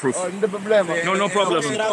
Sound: local speaking Portuguese

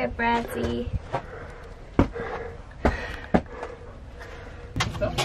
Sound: heavy breathing

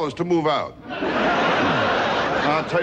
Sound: audience laughing

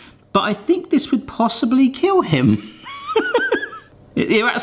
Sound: laughs

